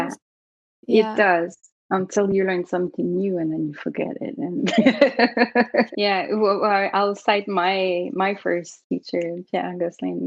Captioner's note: laughter